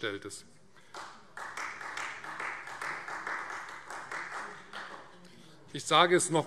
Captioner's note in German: Beifall Freie Demokraten